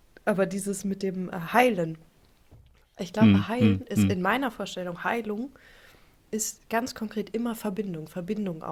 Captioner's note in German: räuspern